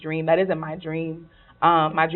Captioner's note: none